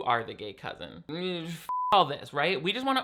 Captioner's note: beep